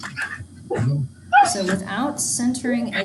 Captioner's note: dog whimpering